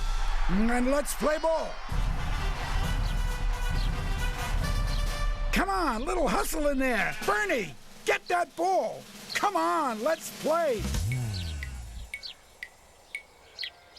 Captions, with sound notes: AND LET'S PLAY BALL! [CROWD CHEERING] COME ON, A LITTLE HUSTLE IN THERE! BERNIE, GET THAT BALL! COME ON, LET'S PLAY!